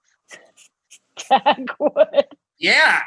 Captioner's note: laughs